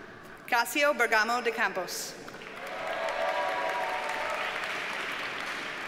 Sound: audience cheers and applauds

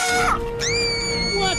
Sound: screaming

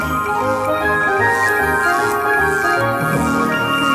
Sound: electricity

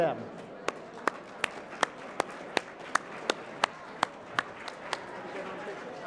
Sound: applause

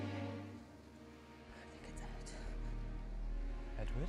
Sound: whispering

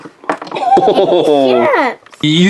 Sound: both laugh

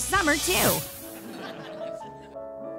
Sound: laughing

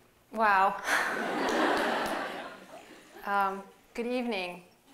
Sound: laughter

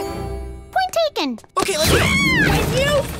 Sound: screaming

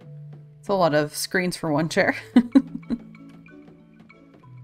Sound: laughs

